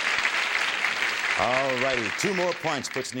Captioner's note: applause